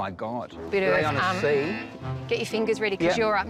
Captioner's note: buzzer